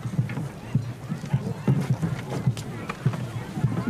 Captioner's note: chatter; drumming